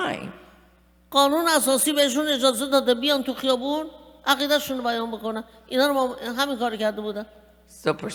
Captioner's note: speaking persian